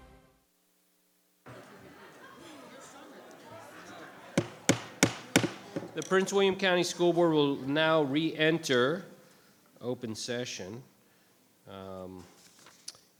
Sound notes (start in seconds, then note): 1.4 scattered chatter; 4.3 gavel bangs